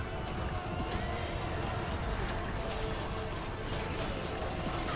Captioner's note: Sword, arrow and takbir sounds